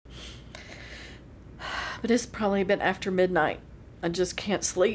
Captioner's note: sniffles